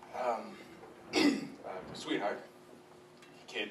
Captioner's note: clears throat